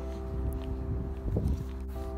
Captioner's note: wind blowing